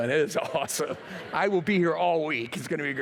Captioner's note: laughter